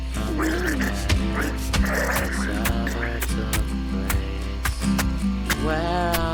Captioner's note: person gurgling; fist thuds